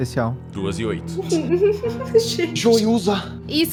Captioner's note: laughing